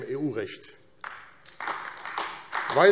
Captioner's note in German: Beifall AfD